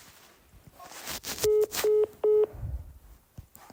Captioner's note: call ends